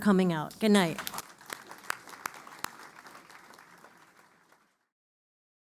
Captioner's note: applause